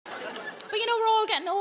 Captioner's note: audience laughing